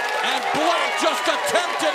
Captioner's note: cheers and applause